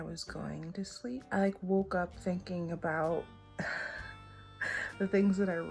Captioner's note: chuckles